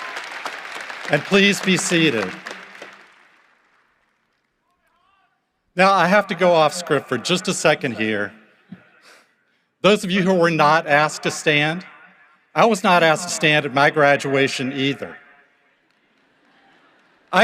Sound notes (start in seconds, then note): 0.0 cheering and applause